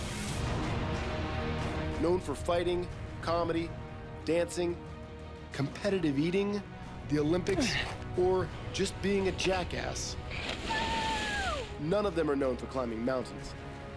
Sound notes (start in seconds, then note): 10.3 shouting